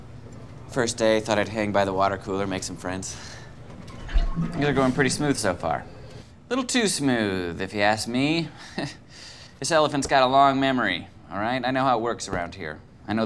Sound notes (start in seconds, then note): 4.0 water gurgling